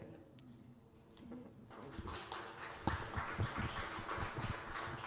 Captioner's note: applause